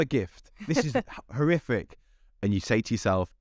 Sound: laughing

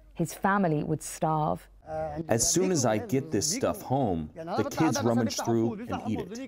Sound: through translator

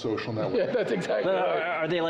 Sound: laughing

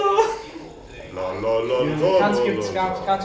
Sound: singing scales in falsetto, laughs; singing scales; sipping noises

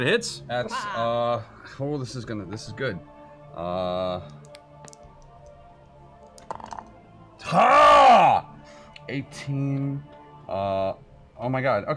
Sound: excited yell

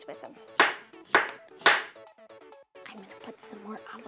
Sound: knife slamming

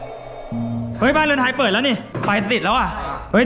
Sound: traditional music playing; pat

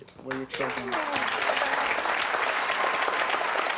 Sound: applause

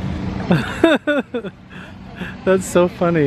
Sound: laughs

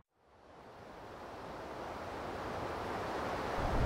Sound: snowstorm falling

